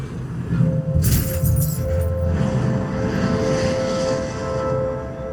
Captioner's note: glass crashing